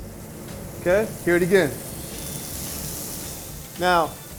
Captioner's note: steak sizzling